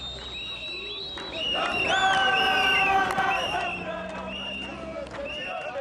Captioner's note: whistles blowing; chanting and clapping; chanting continues